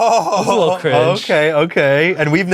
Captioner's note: laughs